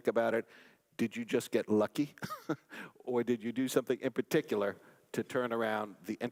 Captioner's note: laugh